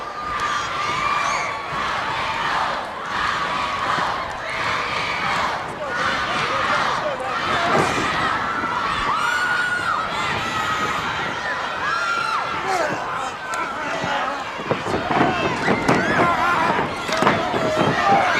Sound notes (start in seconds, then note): 1.8 crowd cheering; 5.7 crowd chatter